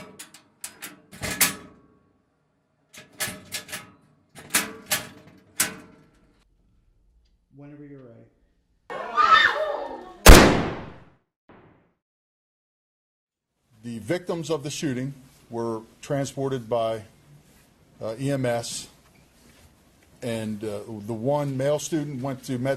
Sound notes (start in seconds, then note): 0.0 locker doors slamming; 4.4 locker doors slamming; 8.9 yells; 10.2 gunshot